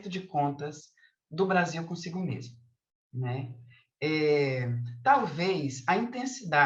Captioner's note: continues speaking in Portuguese